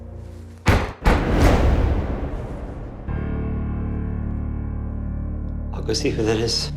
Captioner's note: knock. Knock. Knock